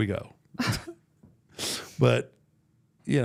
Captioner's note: Mark laughing